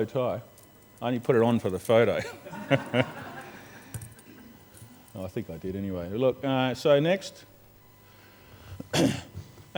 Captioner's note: laughs